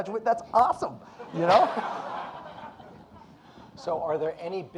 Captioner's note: audience laughing